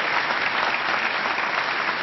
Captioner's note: applause